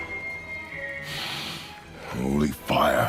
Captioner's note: breathes